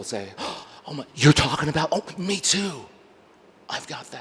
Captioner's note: gasps softly